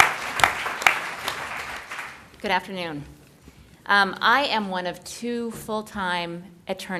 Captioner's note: applause